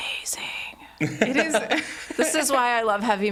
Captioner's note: laughs